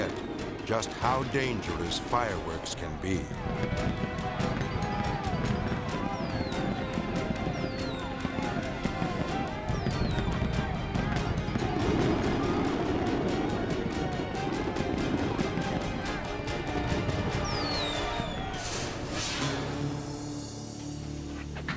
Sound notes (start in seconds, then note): 3.8 chaotic dramatic music; 3.8 people yelling; 10.6 chaotic dramatic music; 10.6 fireworks exploding; 17.2 fireworks exploding; 17.2 people yelling; 18.7 dramatic whoosh